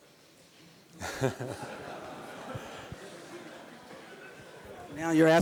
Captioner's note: laughter